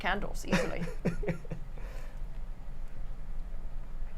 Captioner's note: laughs